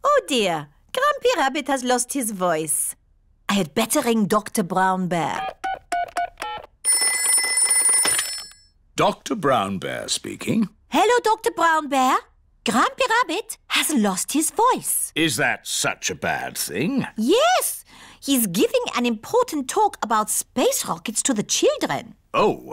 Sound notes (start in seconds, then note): 6.9 ringing